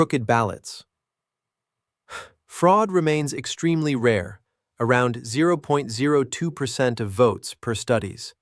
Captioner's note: exhales sharply